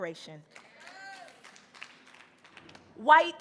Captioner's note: audience applauding